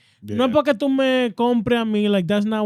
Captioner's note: speaking In Foreign Language